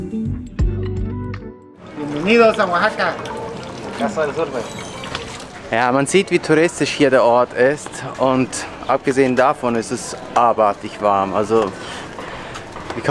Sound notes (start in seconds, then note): 2.2 in Spanish